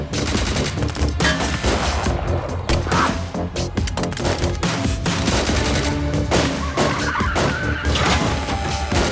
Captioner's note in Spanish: Disparos